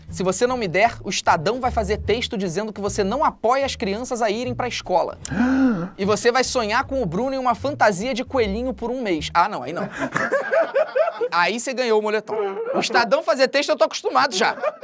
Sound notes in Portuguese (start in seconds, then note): 5.2 faz som de surpresa; 9.8 risadas; 12.4 risadas; 14.2 risadas